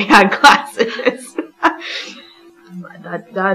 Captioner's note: laughing